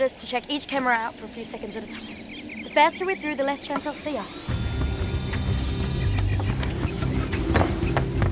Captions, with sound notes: to check each camera out for a few seconds at a time. The faster we're through, the less chance they'll see us. (camera whirring)